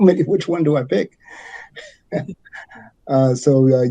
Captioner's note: chuckles